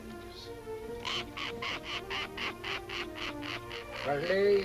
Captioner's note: cackling